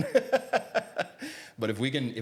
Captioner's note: laughs